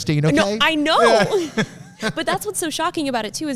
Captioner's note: laughing